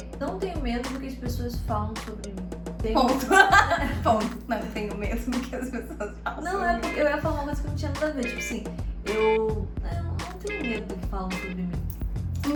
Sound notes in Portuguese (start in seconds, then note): 3.2 Risos